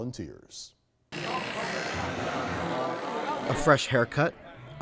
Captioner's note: clippers buzzing